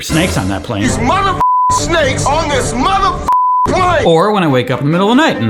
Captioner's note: beep